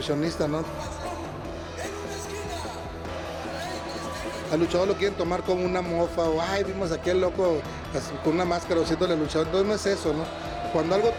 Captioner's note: Rey Misterio speaking Spanish; announcer speaking Spanish